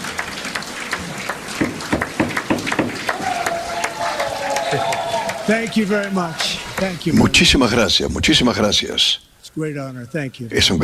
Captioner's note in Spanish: aplausos